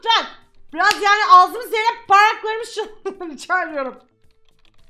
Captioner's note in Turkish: gülerek